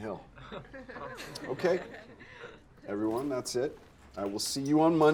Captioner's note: students chuckling